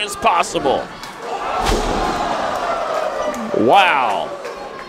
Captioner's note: crowd